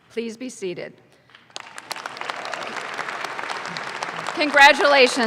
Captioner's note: audience claps